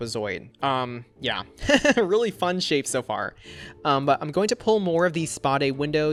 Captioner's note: laughs